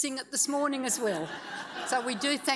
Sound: audience laughs

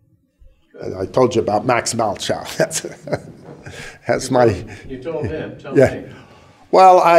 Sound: chuckle

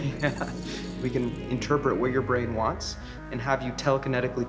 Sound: laughs

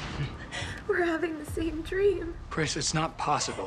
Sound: Kris whimpers

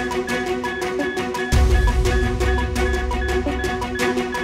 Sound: beeping

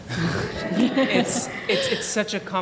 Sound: laughter

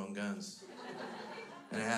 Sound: crowd laughs

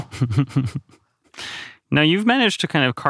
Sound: laughs

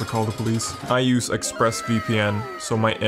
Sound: "Wow" sound effect

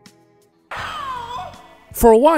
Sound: screaming sound

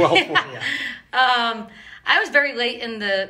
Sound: laughing; laughs

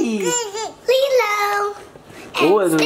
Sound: babbles

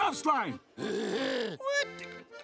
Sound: laughs

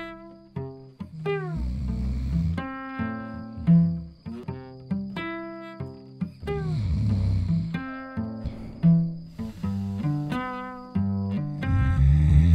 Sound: wombat snores softly

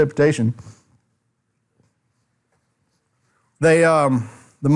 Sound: silence

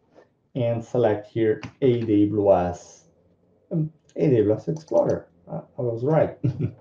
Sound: chuckles

